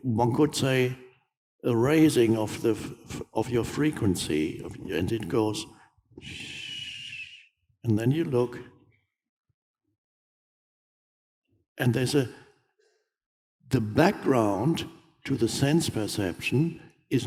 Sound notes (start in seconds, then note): 6.2 exhales slowly